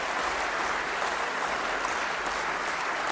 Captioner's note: applause